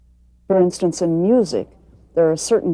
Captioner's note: voiceover